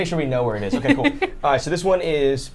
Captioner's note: chuckles